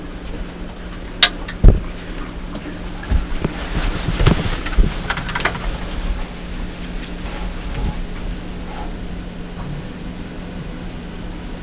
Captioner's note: sound of movement inside blind